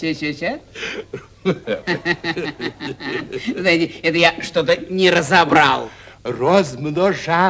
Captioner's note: laughter